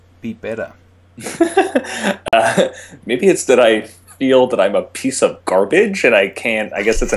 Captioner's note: laughter